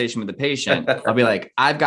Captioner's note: laughs